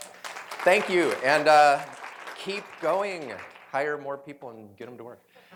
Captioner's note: applause